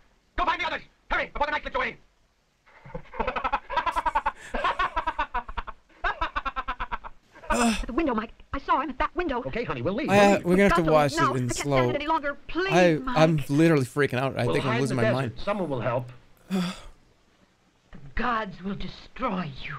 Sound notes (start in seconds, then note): 3.6 laugh repeats; 7.4 sighs; 16.4 sighs